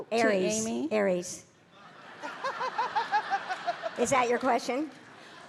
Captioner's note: audience laughing